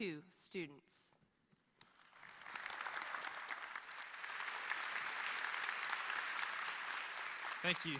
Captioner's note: applause